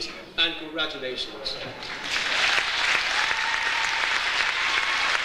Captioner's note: audience applauds